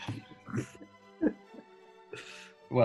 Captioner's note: giggling